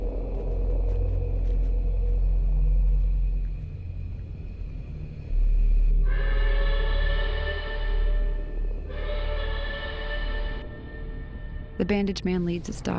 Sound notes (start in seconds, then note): 0.3 footsteps; 6.1 train whistle blowing